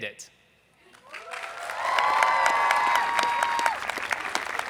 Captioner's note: people cheering